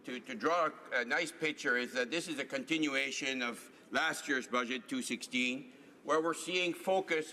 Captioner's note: speaking in french